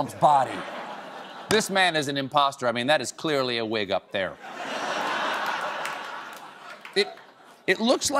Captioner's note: laughter